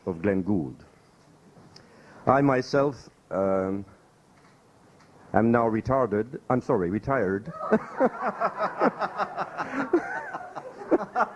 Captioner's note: laughter